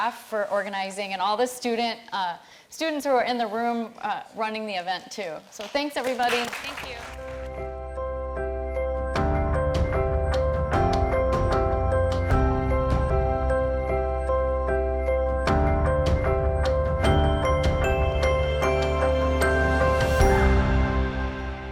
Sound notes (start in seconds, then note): 7.2 audience clapping; 10.4 light upbeat music